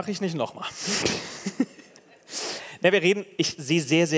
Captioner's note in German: Gelächter